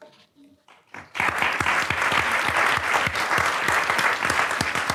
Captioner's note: audience applauds